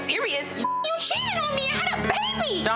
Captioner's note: beep